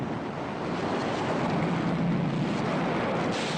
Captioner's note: crash